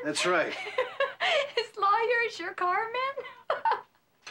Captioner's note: laughing